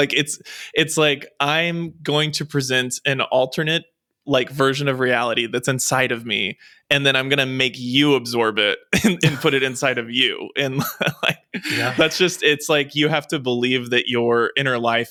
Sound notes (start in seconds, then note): 9.0 chuckles; 10.8 laughs